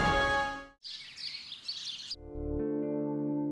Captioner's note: birds chirping